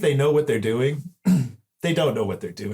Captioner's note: clear throat